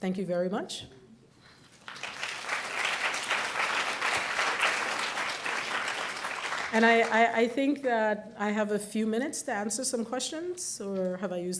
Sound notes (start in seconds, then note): 1.6 applause